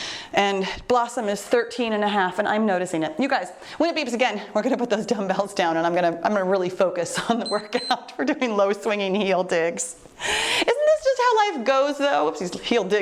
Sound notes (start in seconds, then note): 7.4 timer beeps